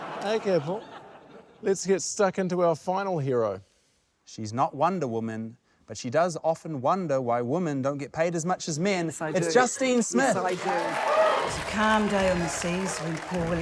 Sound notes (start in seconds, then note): 0.0 laughter; 10.2 cheers, applause